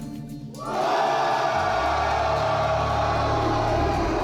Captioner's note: team cheers